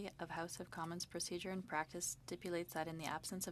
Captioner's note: speaking French